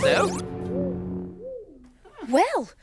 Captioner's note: soft zap